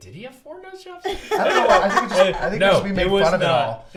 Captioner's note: laughs